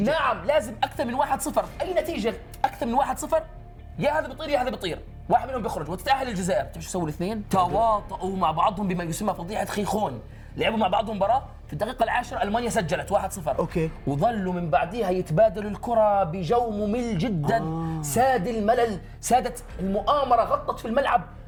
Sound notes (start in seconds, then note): none